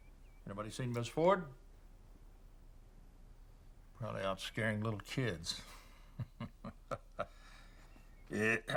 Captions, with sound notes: Anybody seen Ms. Ford? Probably out scaring little kids. (laughs)